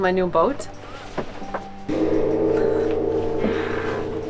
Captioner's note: taps Gong